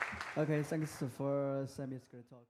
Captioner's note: applause